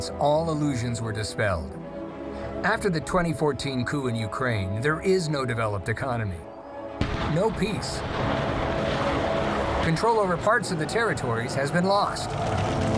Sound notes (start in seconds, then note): 7.0 weapons firing